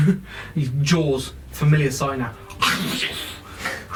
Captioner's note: biting sound